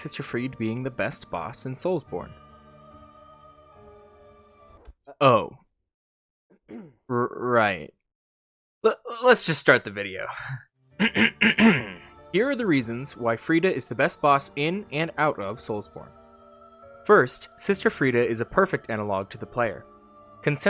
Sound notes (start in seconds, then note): 9.4 shaky laughter; 11.0 throat clearing